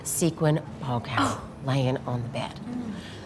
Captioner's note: Ainsley gasping